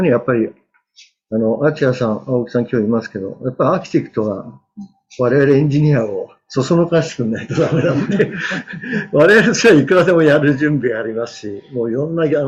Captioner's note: laughs